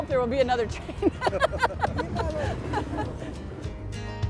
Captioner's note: laughter